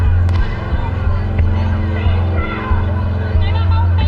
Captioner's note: protesters chanting; gunshots firing; dramatic music; protesters chanting